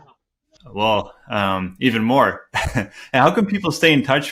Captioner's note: chuckles